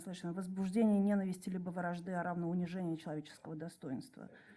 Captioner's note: speaks in Russian